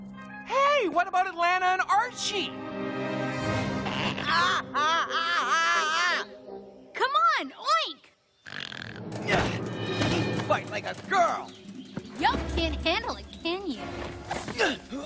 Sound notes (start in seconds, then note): 4.2 screaming; 7.9 Archie grunting; 8.4 snorting